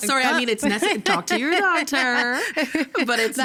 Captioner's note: laughing